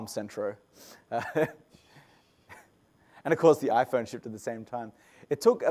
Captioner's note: laugh